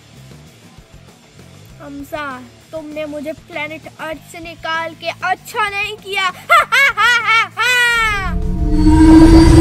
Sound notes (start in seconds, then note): 6.4 ha Ha Ha